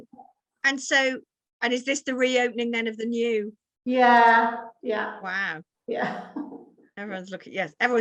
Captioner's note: laughing